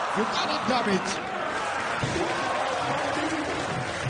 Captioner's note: audience applauds